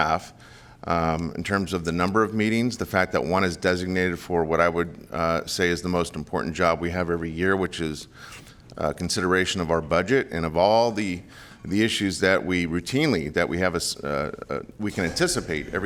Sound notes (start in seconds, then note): none